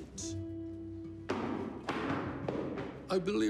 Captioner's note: feet stamp